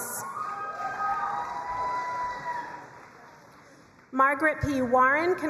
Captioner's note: crowd cheering and applauding